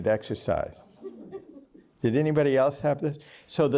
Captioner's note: laughter